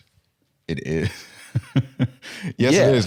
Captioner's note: laughs